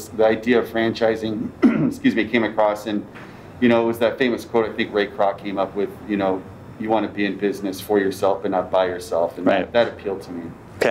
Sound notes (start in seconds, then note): 1.4 clears throat